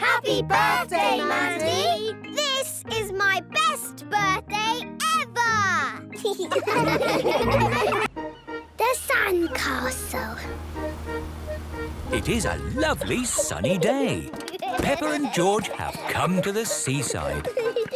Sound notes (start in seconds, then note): 6.1 laughing